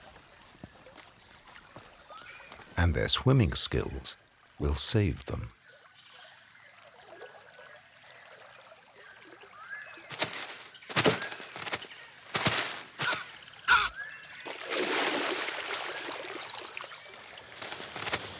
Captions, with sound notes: And their swimming skills will save them. (rustling) (water splashing)